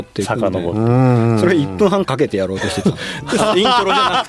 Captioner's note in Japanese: 笑い